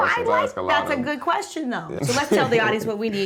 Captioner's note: chuckles